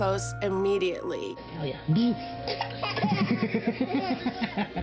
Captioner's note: laughter